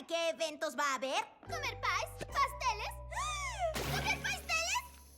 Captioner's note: gasp